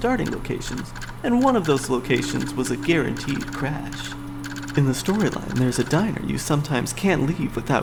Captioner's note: hard drive clicking